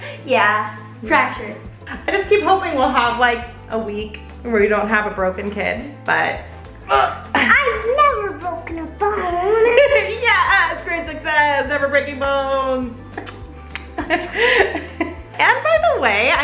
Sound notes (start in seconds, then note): 13.7 chuckles